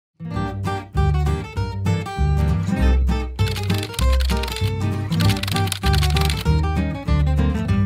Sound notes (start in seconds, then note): 3.4 typing noises